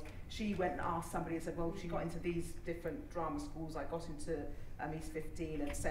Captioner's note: none